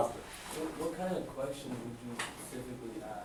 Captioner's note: voiceover